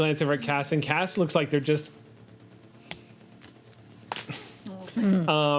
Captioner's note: snaps fingers